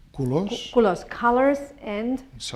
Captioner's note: spanish